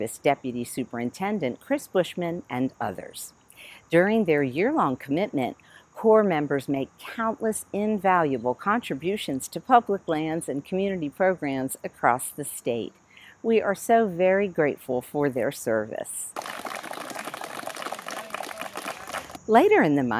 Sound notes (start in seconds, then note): 16.3 sound of applause